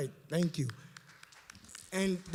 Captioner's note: applause